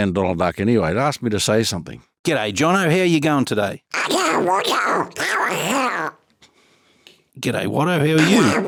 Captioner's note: makes Donald Duck sounds; makes Donald Duck sounds